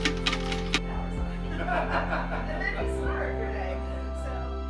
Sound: laughs

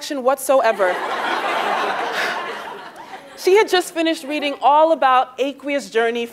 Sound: laugh

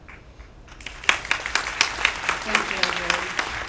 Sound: applause

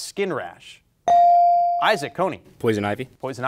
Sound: bell ringing

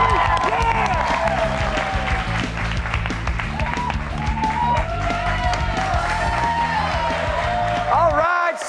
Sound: cheers and applause

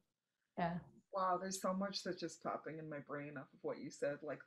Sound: murmurs

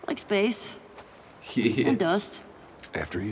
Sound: laughs

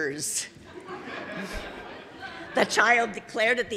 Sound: audience laughing

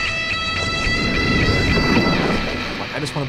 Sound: waves whooshing

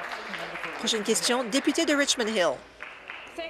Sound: applause

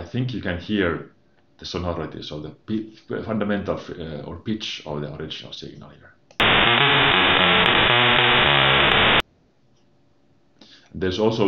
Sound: distorted sounds

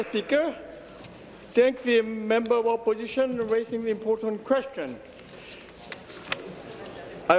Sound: applause

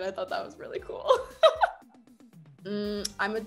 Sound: laughing

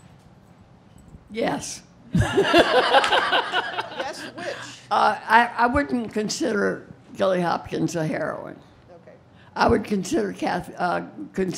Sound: laughter

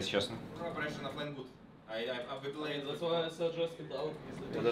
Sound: speaking in Russian; players speaking in Russian

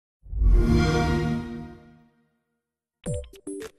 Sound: Xbox One Startup Sound

